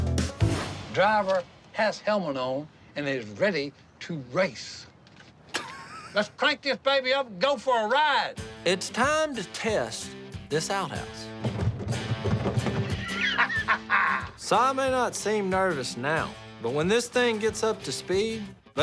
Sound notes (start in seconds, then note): 5.5 laughing; 11.2 banging; 12.8 laughing